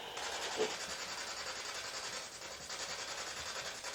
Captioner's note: loud static